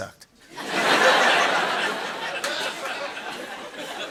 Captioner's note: laughter